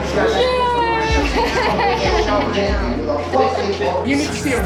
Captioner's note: laughing